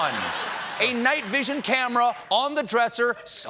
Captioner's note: laughter